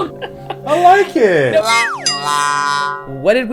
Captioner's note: laughs; wah-wah sound effect